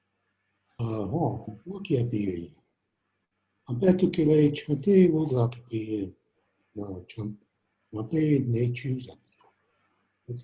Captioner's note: speaking in native language